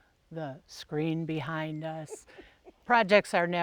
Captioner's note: laughing